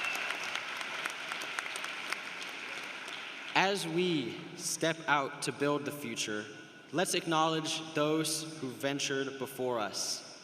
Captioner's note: cheers and applause